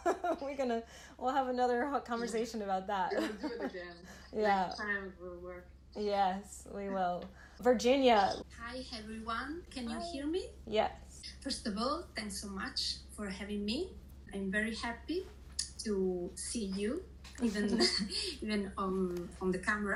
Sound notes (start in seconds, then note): 0.0 laughing; 3.1 laughing; 17.4 laughing